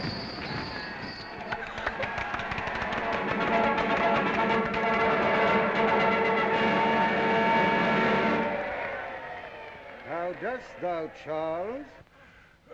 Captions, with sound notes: (vigorous clapping) (brass fanfare) How dost thou, Charles?